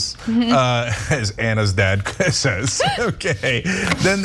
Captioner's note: laugh